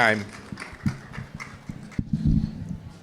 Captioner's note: audience clapping